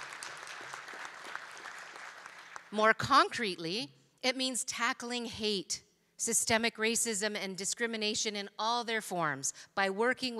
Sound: applause

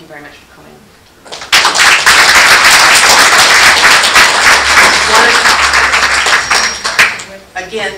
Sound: applause

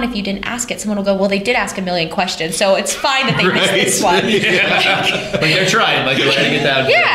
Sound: laughter

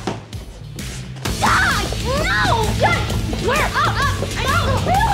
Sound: Blair screams

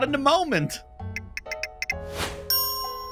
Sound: phone notification; typing

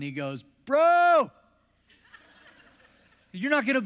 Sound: congregation laughs

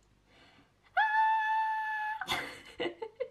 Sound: high pitched scream; low laughter

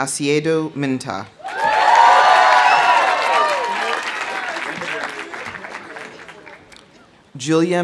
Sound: audience cheering; audience applauding

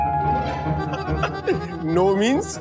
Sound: laughs

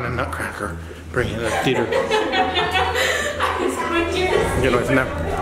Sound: lady laughing

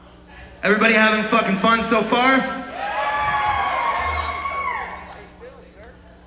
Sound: crowd cheers

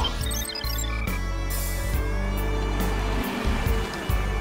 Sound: computer beeping

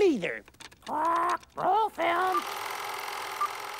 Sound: squawking

